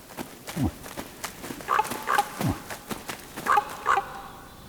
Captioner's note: moose grunting; animal calling